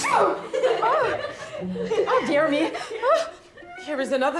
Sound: sneezes

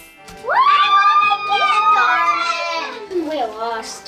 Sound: cheering

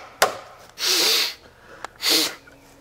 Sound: more grunting and wacking; blows nose

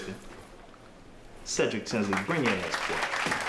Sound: audience applauding

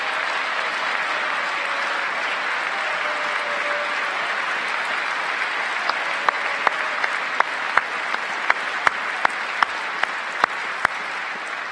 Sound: cheers and applause; applause

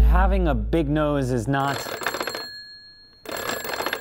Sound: toy phone ringing

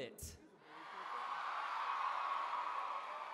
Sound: cheering

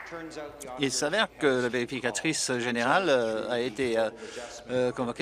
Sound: applause

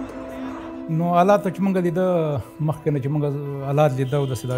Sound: speaking in pashto

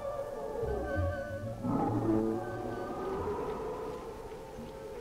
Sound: creature growling

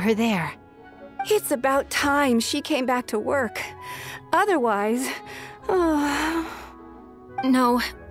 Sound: sigh

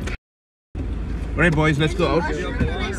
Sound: kids chatter

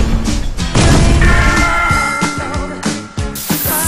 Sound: clang

